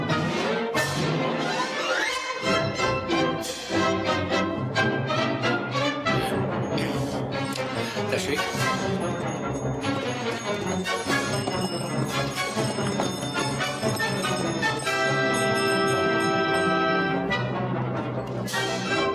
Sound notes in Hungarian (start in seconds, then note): 6.5 Belloni mormog; 9.5 közeledő szán csengetése